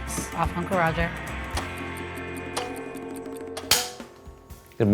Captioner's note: timer dinging; clapperboard snapping